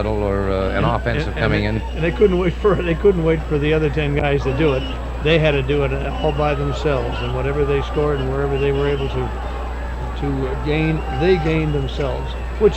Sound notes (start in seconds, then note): 3.1 chuckling